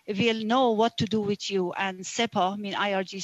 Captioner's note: speaking alternate language